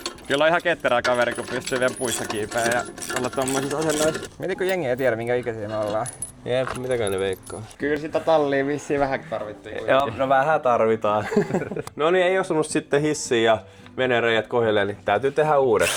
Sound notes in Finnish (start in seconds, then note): 11.1 naurua